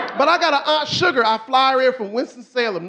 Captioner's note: audience laughing